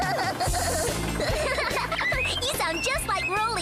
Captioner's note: laughing